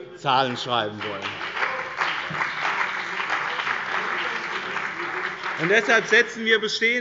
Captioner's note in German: Beifall bei dem BÜNDNIS 90/ DIE GRÜNEN und der CDU